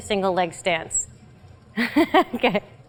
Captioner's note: laugh